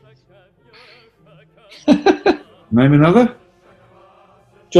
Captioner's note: laughing